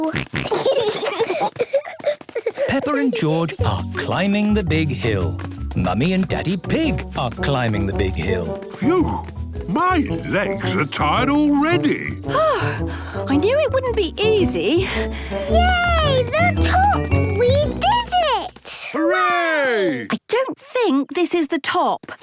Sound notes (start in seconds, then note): 0.0 snorting, giggling; 14.8 panting